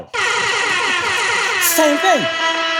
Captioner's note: siren sounds